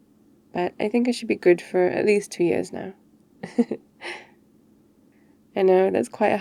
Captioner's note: laughs cos that's how it works